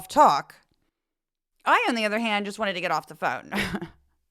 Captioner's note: laugh